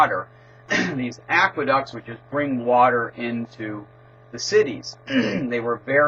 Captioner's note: cough